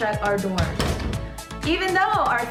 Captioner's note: door closing